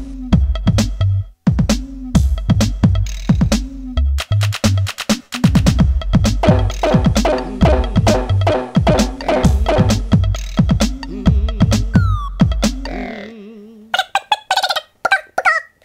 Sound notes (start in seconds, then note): 6.4 bop bop bop bop bop